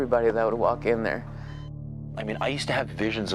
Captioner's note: machine beeps